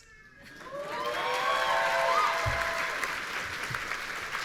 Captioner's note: audience cheering